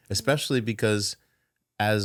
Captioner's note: none